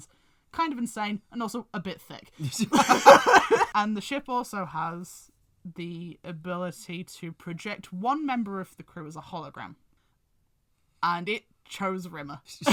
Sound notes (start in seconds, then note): 2.4 laugh